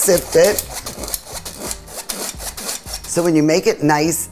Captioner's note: sift scraping